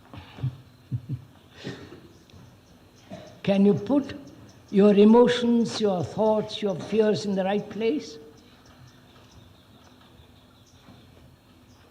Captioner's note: laughs